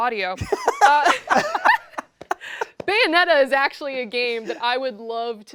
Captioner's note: laughter